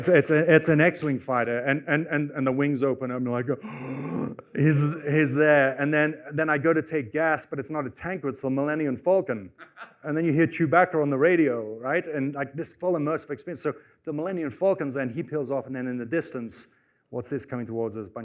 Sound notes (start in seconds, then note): 3.6 gasps